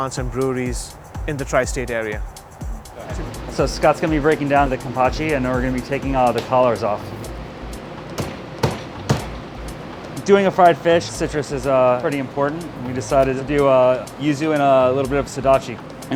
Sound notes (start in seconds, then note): 8.4 hand banging